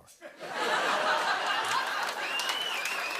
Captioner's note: laughter; cheers and applause